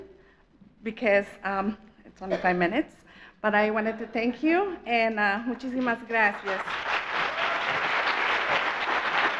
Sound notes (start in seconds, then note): 4.7 speaking in foreign language; 6.3 audience applauds